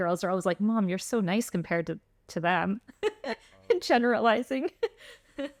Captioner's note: laughter